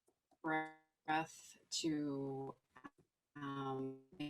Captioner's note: faintly speaking